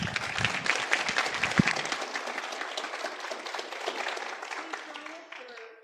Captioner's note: applause